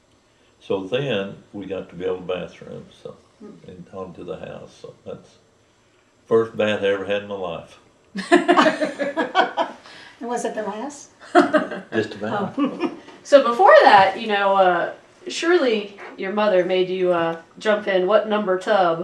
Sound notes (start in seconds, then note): 8.1 laughter